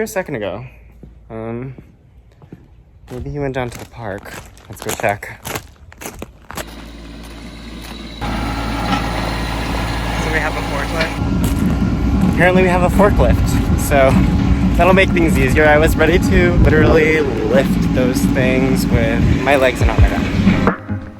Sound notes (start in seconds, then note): 6.9 engine whirring